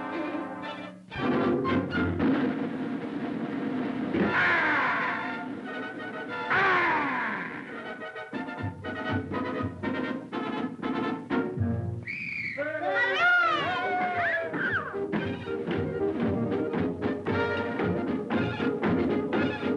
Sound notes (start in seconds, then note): 12.0 whistle; 12.6 cheers